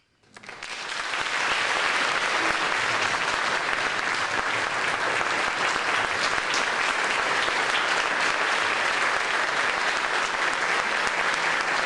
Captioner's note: applause